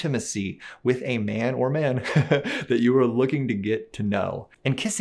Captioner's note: laughs